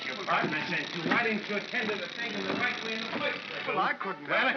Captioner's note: Ollie grumbles; chattering sound of gears